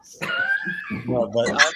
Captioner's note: laughter